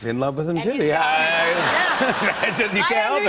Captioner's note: laughter